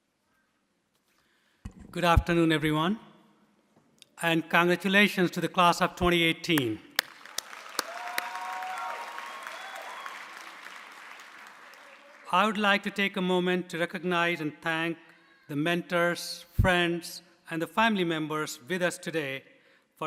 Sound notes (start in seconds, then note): 6.9 audience applauding; 7.3 audience cheering